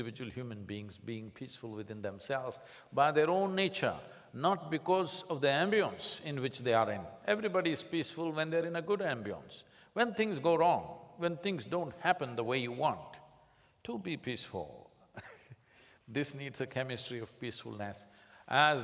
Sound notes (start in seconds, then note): 15.7 laughs